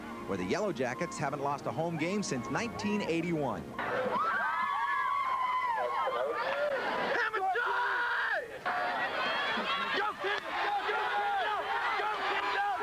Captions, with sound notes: WHERE THE YELLOWJACKETS HAVEN'T LOST A HOME GAME SINCE 1981. WHOO! [SHOUTING] GO, KID! GO GO GO GO! GO, KID, GO!